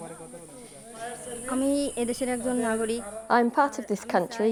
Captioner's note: foreign language